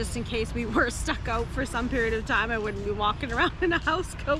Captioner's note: laughs